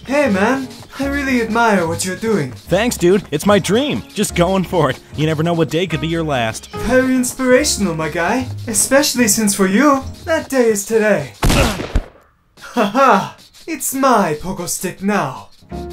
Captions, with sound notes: - Hey man, I really admire what you're doing. - Thanks Dude, it's my dream. Just going for it, you never know what day could be your last. - Very inspirational my guy, especially since for you that day is today. (gun fires) - Aha, it's my pogo stick now.